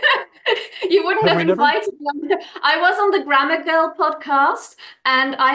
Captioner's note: laughs